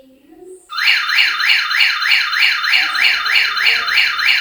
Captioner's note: motion alarm wailing